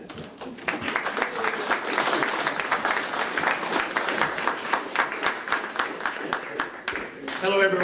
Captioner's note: applause